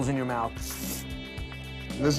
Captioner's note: slurping